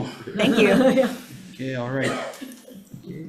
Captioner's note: laughs